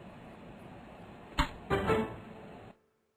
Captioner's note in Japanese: 効果音